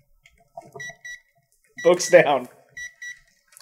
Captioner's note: gentle beeping